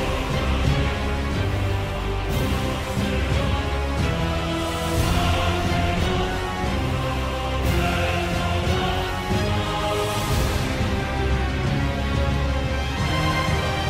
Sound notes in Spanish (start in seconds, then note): none